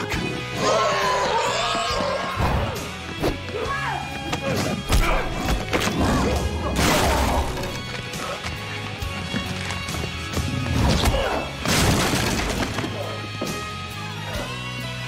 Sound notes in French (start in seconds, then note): 0.3 grunts; 0.6 inhuman roar; 5.1 groans; 5.1 grunts; 8.2 crashing, splintering; 12.6 grunts